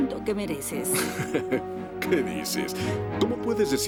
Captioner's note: Thomas laughing